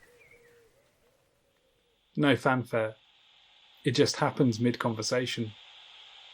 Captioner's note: bird song in background fades; static hiss fades in